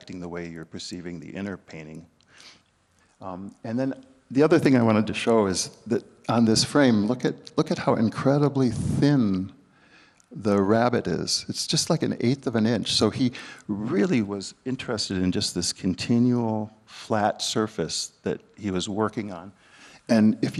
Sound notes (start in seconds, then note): none